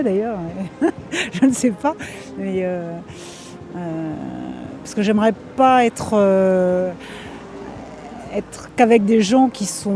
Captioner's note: laughs